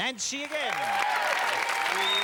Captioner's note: cheers and applause